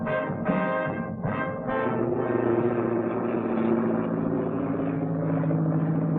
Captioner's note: plane engine